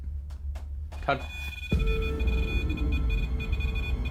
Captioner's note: electronic beeping